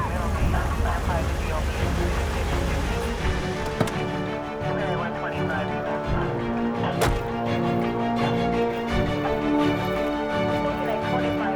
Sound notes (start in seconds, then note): 0.0 police radio chatter; 3.2 engine shuts off